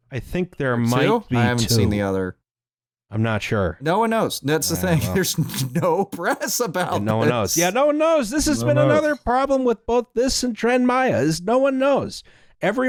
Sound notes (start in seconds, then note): 3.9 laughing